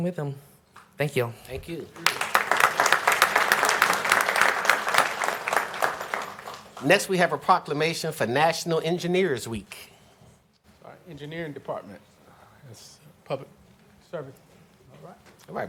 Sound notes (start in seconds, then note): 7.0 applause